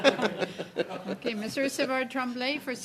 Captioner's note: laughs